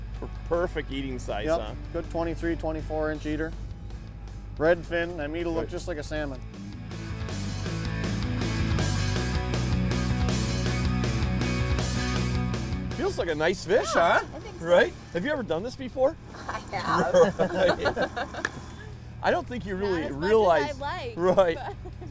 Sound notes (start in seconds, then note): 7.6 upbeat rock music; 16.3 laughs